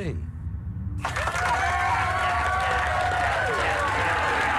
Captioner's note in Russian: все рукоплещут